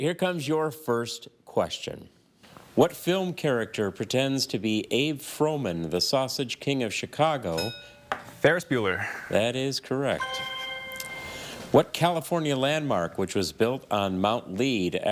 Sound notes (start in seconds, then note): 7.6 bell dings; 10.2 chime resonating